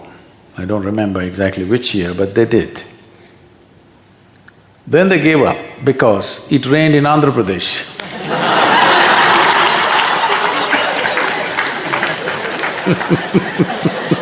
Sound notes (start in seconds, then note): 11.3 laughter/Applause